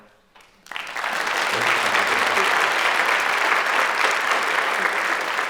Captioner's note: applause